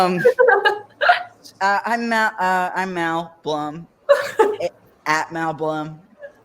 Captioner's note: stammers